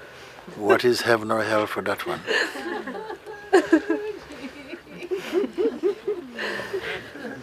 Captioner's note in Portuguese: choros e risos